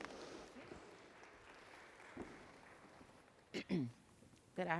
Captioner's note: audience clapping